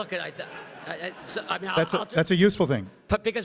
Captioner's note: everybody laughs